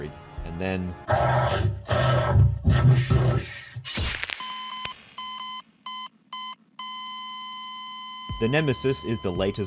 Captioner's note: crunching sound, and cut to black